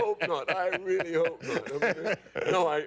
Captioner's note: laughter